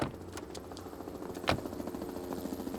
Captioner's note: helicopter passes overhead